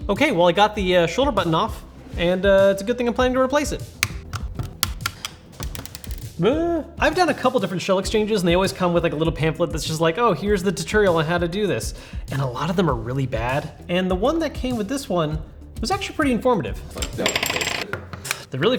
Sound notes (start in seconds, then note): 4.0 controller parts snapping together; 6.4 booing; 17.8 controller parts snapping together